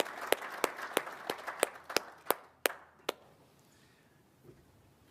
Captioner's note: applause